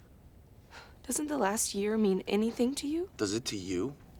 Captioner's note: sighs